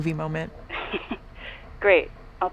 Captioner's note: Skye chuckles